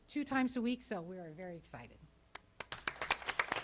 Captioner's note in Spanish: Aplausos